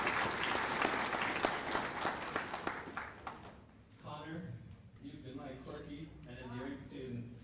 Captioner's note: cheers and applause; applause